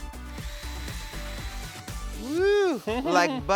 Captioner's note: drilling machine whirring